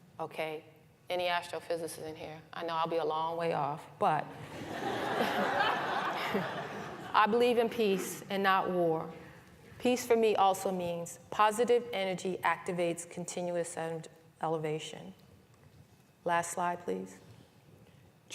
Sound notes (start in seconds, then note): 4.4 laughter